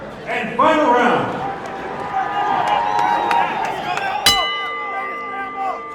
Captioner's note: crowd cheering; bell rings; crowd shouting